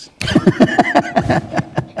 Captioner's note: laughter